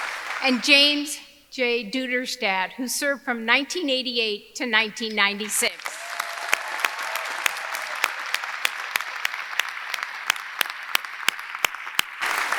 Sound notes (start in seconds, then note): 5.4 audience applauding; 5.4 audience cheering